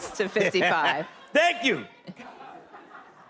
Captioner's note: laughing